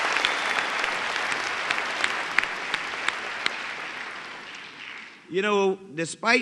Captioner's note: applause